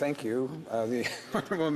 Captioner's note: speaking French